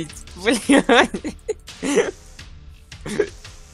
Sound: choked laugh

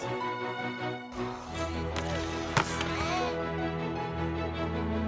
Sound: scraping, sliding

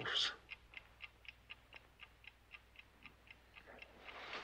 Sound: clock ticking

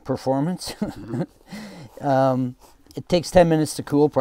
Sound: laughing

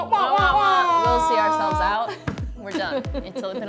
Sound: laughs

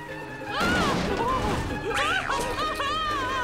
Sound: groaning

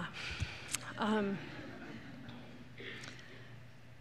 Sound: laughter

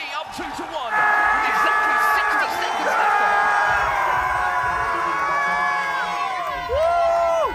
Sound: crowd cheering

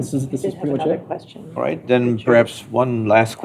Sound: indistinct chatter

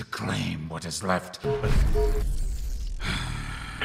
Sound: low power sound

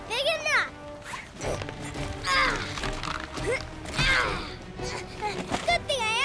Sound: grunting

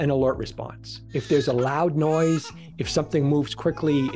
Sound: baby crying

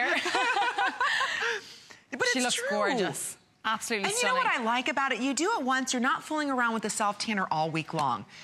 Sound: laughter

